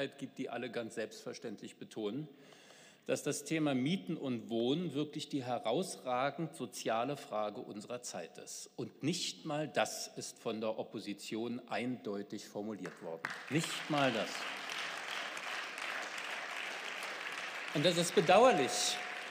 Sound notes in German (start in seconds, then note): 14.5 Beifall